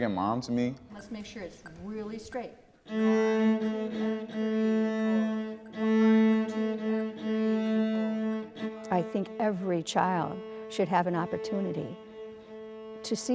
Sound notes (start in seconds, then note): 6.5 metronome ticking; 10.4 lively music cello music